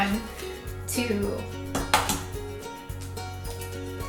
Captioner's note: tapping